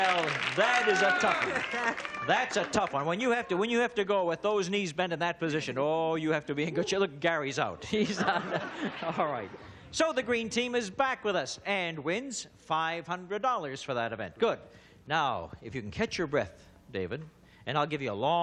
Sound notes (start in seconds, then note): 7.8 laughter